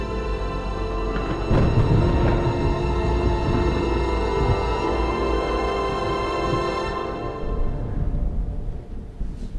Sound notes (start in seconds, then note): 0.0 eerie ominous music; 0.1 thunder rumbles